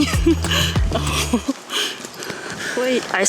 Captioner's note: laughs